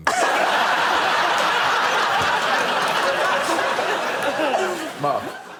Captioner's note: laughter